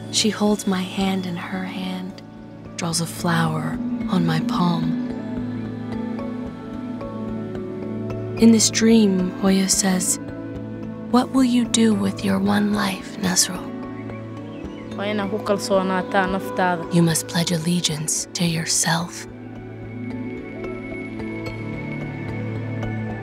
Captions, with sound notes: She holds my hand in her hand, draws a flower on my palm. In this dream, Hooyo says, "What will you do with your one life, Nasro?” [speaking Somali] “You must pledge allegiance to yourself."